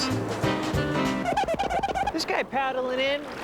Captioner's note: squeaking